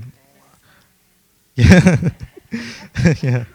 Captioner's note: laughs